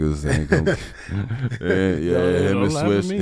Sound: Metta laughs

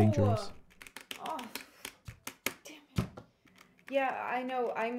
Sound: making frustrated noises

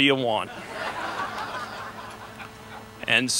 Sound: laughter

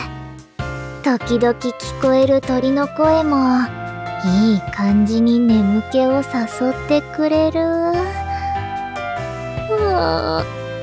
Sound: yawn

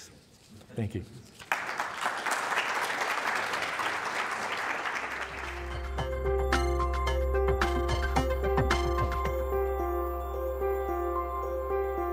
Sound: applause

